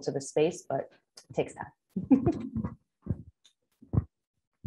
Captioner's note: chuckling